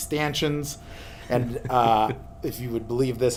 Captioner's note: laughs